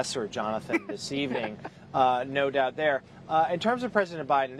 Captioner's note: laughter